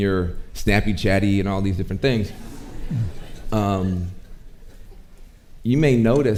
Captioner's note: audience chuckling